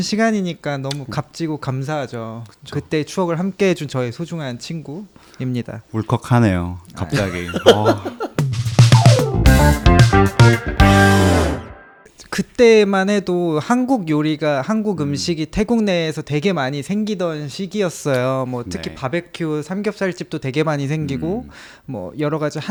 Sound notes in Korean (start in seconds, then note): 7.1 웃음